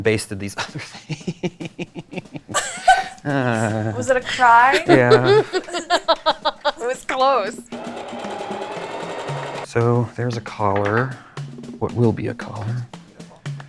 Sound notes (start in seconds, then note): 2.9 laughing; 6.4 laughing